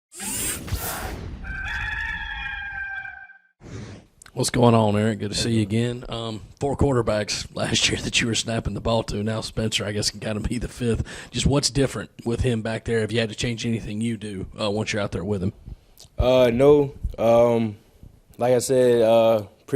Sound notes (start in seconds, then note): 1.4 rooster crowing